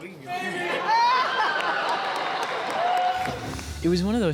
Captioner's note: cheers and applause